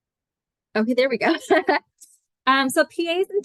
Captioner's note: chuckles